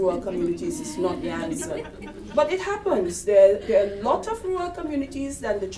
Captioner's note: background chuckles